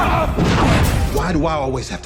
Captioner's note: Solder Boy grunting; whooshing